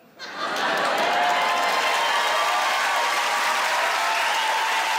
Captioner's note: audience cheers